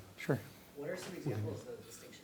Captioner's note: voiceover